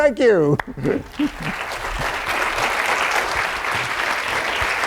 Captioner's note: applause